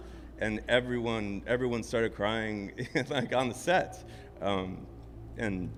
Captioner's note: laughs